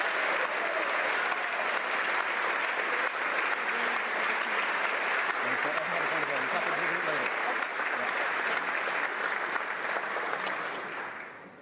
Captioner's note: applause